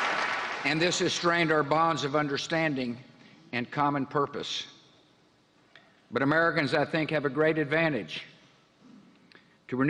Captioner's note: applause